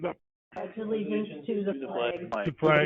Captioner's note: all reciting